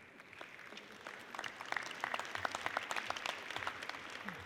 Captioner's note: audience applauds